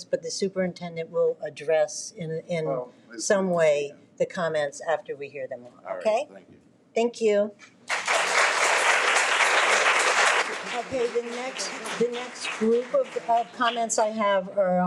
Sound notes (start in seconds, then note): 7.8 audience clapping